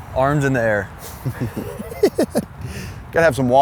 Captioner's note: laughs